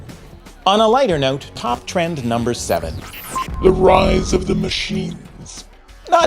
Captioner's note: mechanical voice